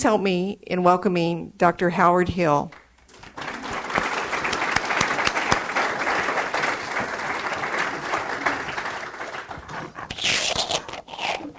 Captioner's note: audience applauds